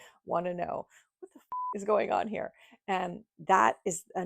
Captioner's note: beep